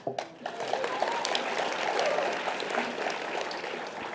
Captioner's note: audience applause